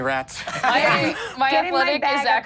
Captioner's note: laughs